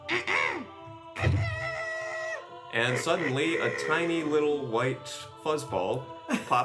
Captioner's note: defiant grunt